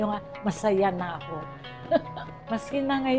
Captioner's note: giggles